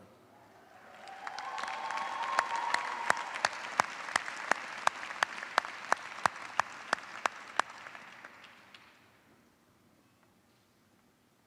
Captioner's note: cheers and applause